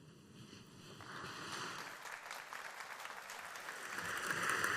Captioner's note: audience applauding